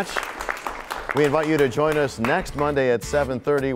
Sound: applause

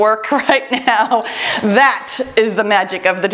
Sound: timer beeps; laughs

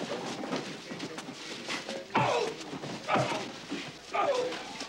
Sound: grunting

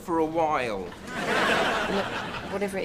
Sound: audience laughs

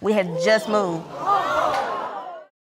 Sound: exclaiming

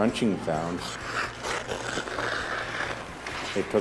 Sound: ice grinding

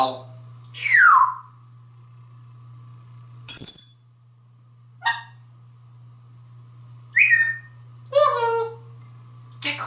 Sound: tweets and whistles

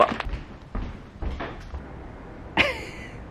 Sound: footsteps; laughs

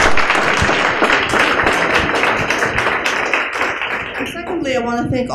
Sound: applause

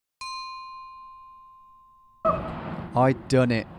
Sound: bell dinging

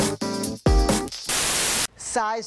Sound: static

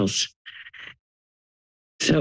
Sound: inhales

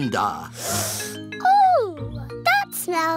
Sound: sniffs

